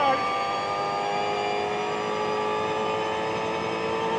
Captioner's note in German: Motor heult auf